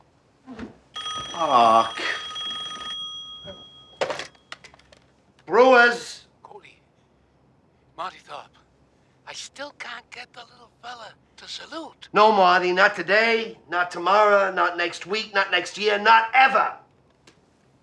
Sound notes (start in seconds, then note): 0.9 phone ringing